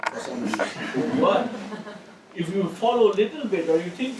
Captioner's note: laugh